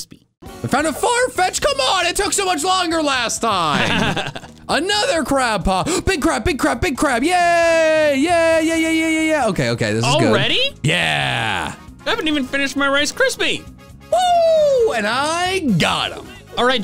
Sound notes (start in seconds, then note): 3.7 laugh